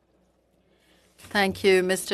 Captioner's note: speaking FRENCH